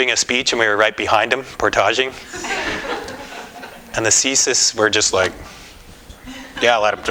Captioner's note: laughter